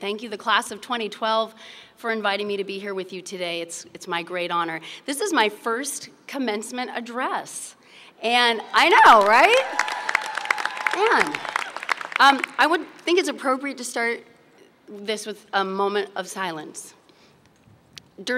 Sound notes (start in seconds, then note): 8.8 applause and cheers